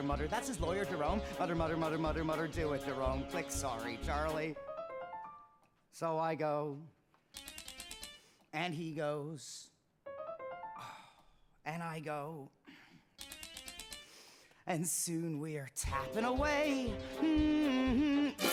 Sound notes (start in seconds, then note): 4.1 light piano riff plays; 7.4 typewriter clicking musically; 10.1 light piano riff plays; 10.8 sighs; 13.2 typewriter clicking musically